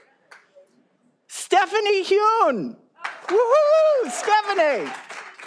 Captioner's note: all applauding